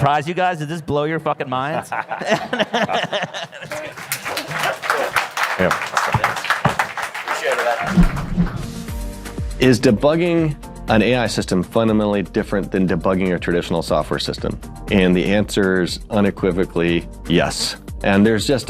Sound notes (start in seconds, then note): 7.7 applause